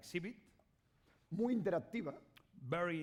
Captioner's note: speaking spanish